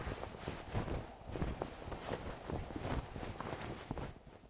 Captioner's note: flag flapping